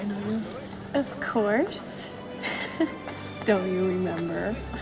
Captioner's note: chuckles